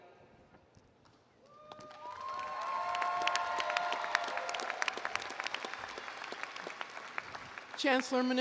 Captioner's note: applause & Cheering